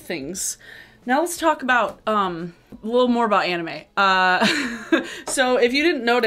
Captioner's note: laughing